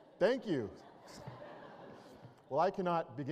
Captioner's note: laughter